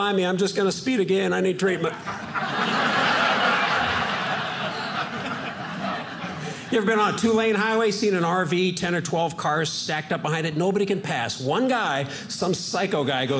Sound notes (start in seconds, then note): 1.8 audience laughing